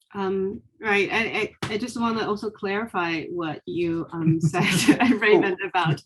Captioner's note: chuckling